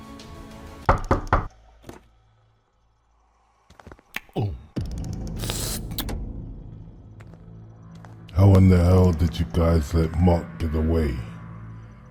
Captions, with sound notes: (visitor knocks) - How in the hell did you guys let Mark get away?